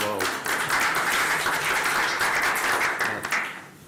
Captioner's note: applause